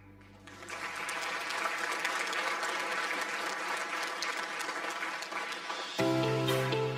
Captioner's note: audience applause